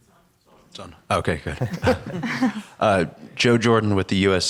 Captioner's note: laughs